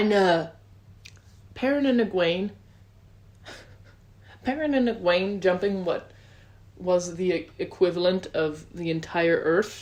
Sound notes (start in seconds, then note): 3.4 laughs in disbelief